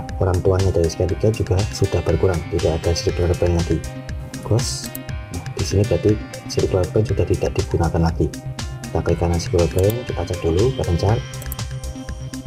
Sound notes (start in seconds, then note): 4.8 click